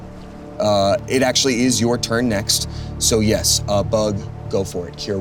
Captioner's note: none